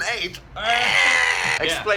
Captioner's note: shrieking